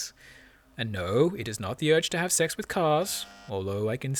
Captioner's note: bzzzt